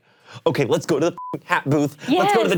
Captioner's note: beep